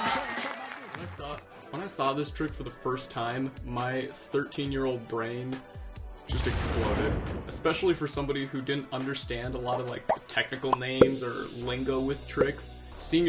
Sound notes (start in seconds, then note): 6.4 bomb exploding